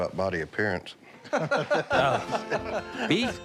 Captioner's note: laughter